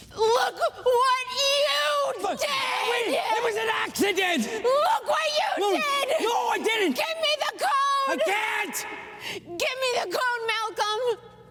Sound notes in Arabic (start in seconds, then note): 0.2 يبكي ويصرخ; 8.1 صراخ